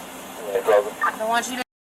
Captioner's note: radio chatter